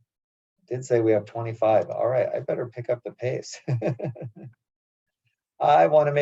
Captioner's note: laugh